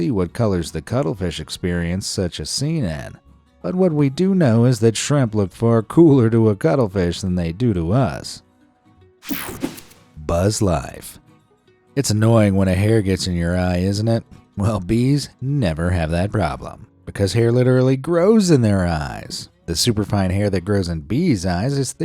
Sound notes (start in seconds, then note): 9.3 air whooshing